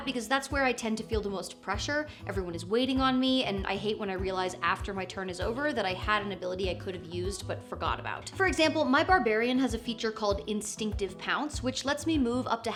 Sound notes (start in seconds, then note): none